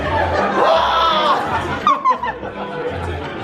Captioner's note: screeching